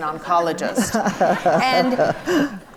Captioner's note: audience laughs